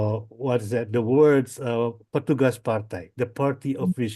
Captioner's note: foreign language